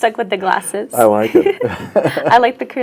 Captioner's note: both laugh